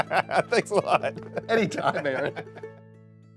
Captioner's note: laughing; country music